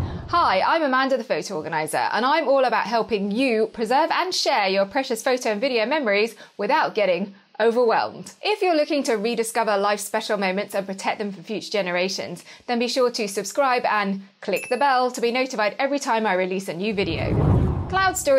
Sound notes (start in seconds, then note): 0.0 screen whooshing; 14.6 bell ringing; 16.9 screen whooshing